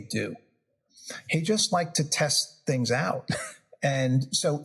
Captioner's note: laugh